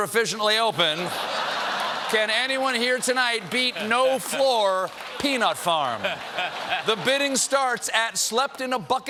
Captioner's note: laughter